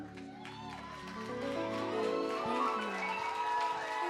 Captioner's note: audience clapping and cheering